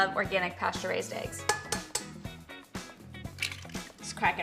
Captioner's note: eggs clinking